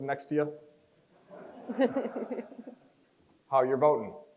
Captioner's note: crowd chuckles